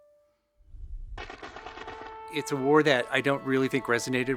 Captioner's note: gun firing